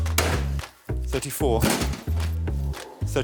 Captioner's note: cans thudding